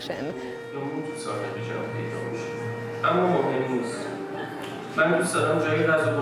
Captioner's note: Persian language movie playing in the background